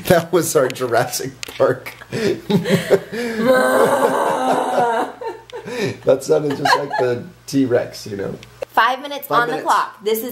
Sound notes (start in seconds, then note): 2.0 laughing; 3.1 moaning